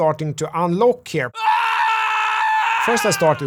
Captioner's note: scream